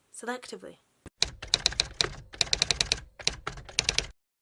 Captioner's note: typewriter Typing